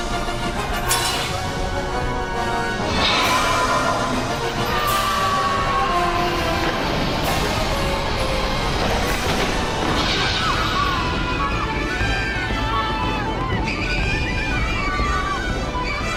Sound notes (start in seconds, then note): 0.8 swords clang; 3.0 air whooshing; 4.8 actor screaming; 7.6 upbeat music continues; 9.8 riders screaming